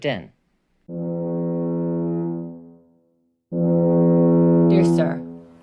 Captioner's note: fog horn